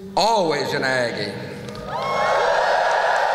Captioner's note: whoop!; applause